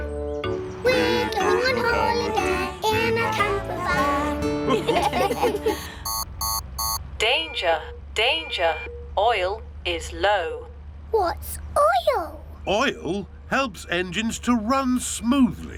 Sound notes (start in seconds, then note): 4.6 laughter; 5.9 beeping